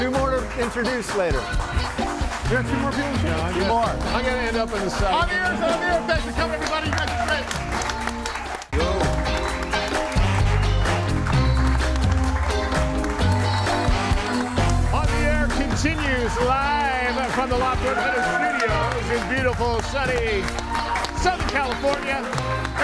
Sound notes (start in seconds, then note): 1.7 audience applauds; 8.8 audience applauds; 10.4 audience applauds and cheers